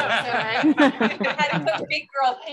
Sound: laughter

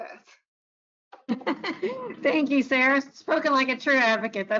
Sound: chuckles

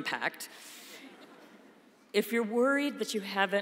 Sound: laughter

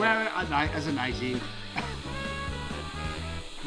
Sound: laughs

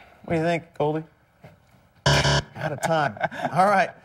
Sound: buzzer

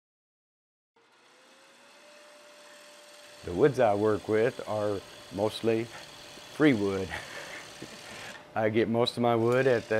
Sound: laughing

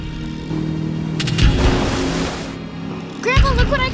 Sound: engine getting closer

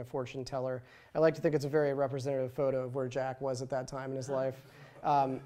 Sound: laughter

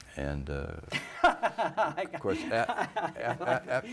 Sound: laughing

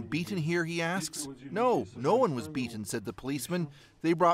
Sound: speaking russian

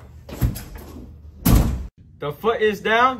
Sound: door slams

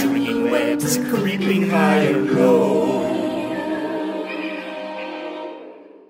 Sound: spooky forest noises

